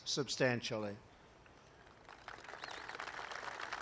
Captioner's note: applause